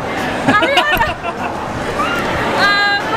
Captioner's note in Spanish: la risa